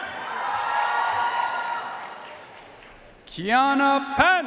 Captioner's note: audience cheering and applauding